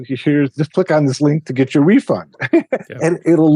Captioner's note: laughs